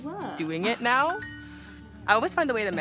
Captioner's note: phone chiming